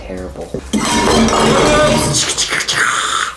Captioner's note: bottles crashing